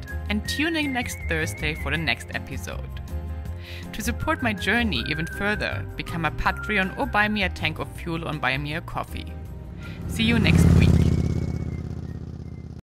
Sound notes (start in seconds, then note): 11.2 bike roaring